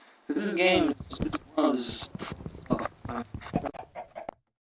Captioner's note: audio deteriorated; audio missing